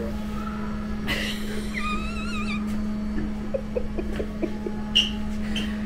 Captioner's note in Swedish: Skratt